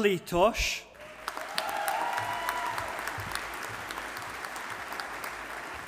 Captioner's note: audience applauding